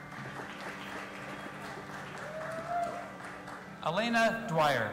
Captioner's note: audience applauding and cheering